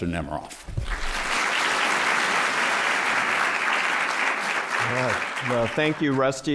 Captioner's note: applause